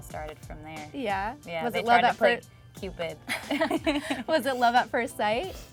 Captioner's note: laughs